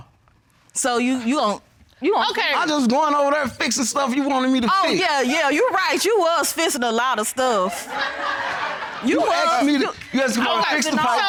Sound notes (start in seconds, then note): 7.6 laughter